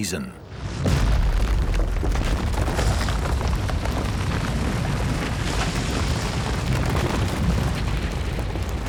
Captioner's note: rocks falling